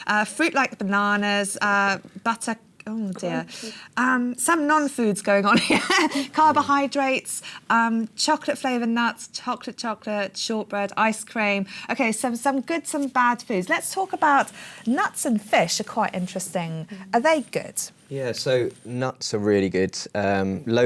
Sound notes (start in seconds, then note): 6.5 laughs